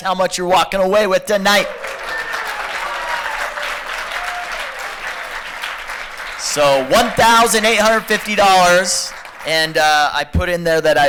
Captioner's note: applause